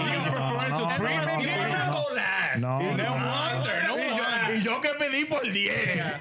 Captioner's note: speaking In Foreign Language